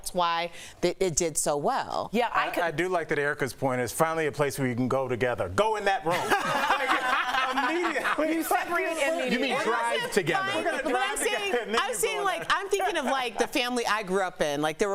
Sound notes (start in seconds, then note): 10.5 laughter